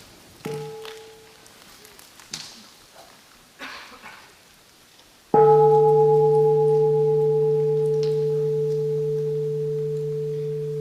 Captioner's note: three sounds of the bell